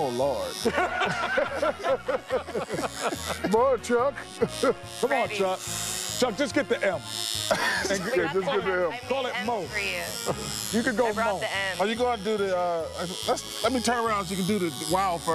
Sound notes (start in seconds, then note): 9.8 laughter